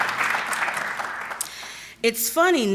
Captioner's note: applause